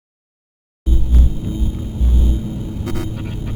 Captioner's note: buzzing